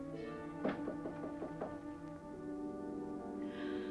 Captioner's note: knocking